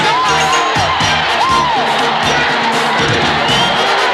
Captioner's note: crowd cheering